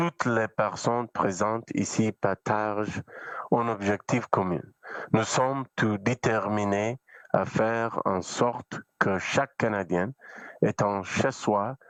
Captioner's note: speaking French